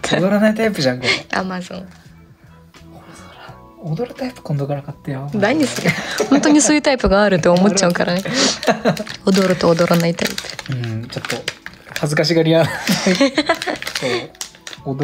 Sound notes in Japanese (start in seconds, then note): 7.7 笑い